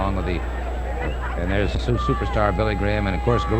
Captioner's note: people shouting distantly